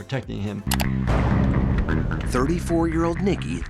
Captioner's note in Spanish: la música rock; clics en la foto